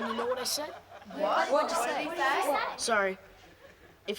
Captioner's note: crowd laughs; crowd